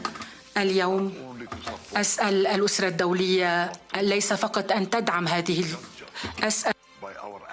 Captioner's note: speaking Arabic